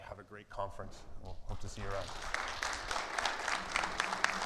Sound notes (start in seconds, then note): 1.5 audience applauds